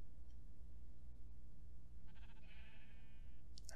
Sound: Minecraft sheep bleats

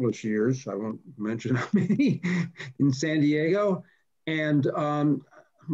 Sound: laughs

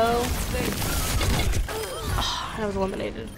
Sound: blasting and groaning

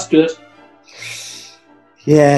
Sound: sucks in air through teeth

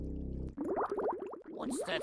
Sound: bubbling

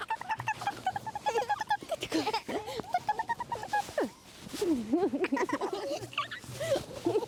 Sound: laugh

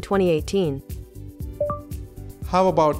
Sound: low beep

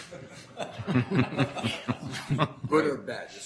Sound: laughter

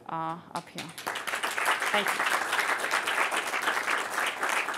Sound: applause

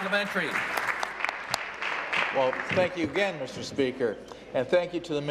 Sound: applause

